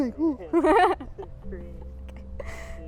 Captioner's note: laughing